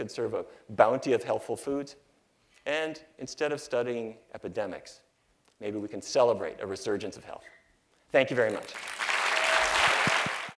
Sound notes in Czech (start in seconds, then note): 8.4 Potlesk